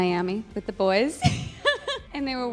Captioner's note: laughs